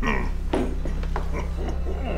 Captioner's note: chuckles